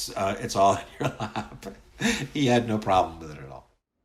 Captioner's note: laughs